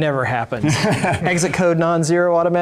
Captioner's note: laughing